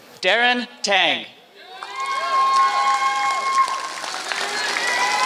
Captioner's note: applause